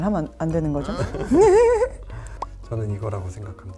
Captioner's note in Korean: 함께 웃는 소리